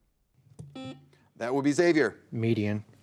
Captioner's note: buzzer beeps